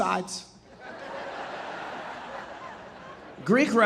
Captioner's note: audience laughing